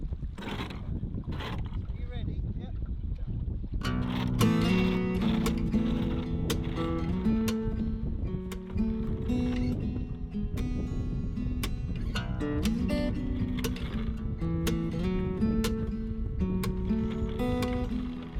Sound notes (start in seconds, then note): 3.8 windlass/anchor chain noise